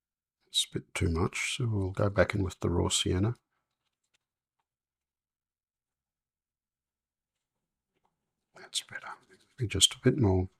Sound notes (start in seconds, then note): 5.7 silence